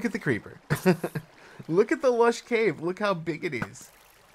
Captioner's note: laughs